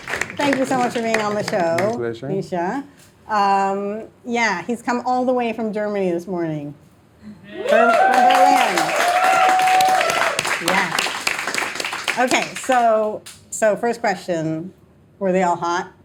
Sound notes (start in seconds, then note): 0.0 upbeat music; 11.0 audience applauding, cheering